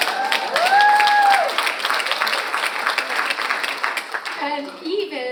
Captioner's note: audience cheers and applauds